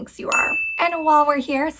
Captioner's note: bell dings